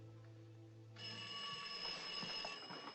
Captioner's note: phone Ringing